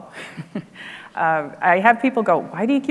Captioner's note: laughs